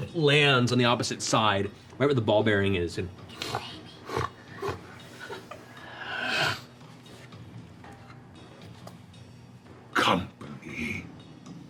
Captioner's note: sniffs